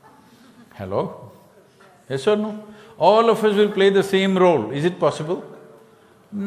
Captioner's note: few laugh